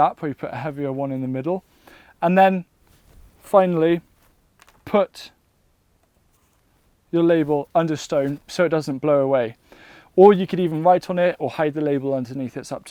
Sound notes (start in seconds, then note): 4.6 label clattering